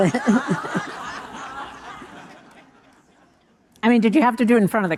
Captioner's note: audience laughing